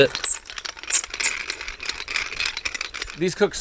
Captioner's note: pepper grinder squeaking